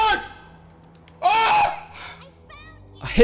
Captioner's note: agony